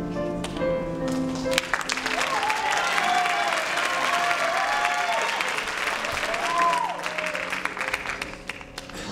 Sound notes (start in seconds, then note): 1.3 applause